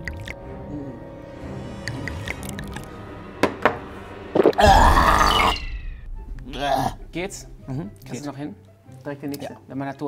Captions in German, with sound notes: (Bedrohliche Musik) (Ekelgeräusch) Weah! Geht's? - Mhm. Geht. Direkt der nächste, der Mann hat Durst.